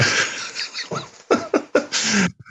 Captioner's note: laughter